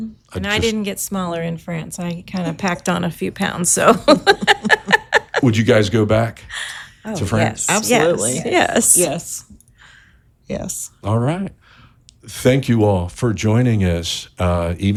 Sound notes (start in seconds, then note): 3.9 chuckle